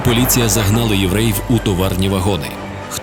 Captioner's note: the sound of the railroad train movement